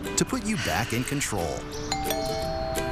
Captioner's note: doorbell